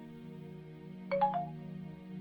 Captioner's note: new incoming message sound